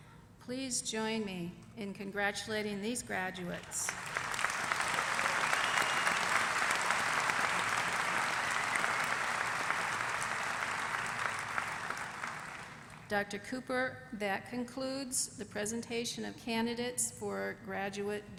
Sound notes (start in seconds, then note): 5.9 applause